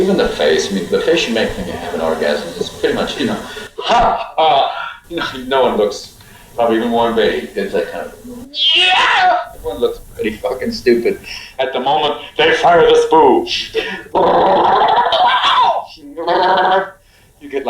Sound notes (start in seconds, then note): 3.8 laughs; 8.4 yells orgasmically; 14.0 imitates animal noises